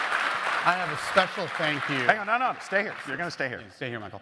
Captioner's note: applause